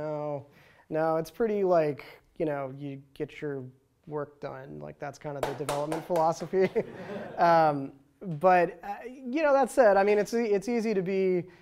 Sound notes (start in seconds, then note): 0.0 dorky voice; 5.7 laughter, applause